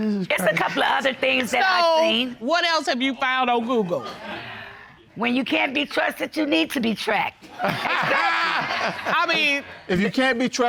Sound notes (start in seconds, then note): 7.5 all laugh